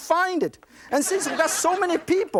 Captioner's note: laughter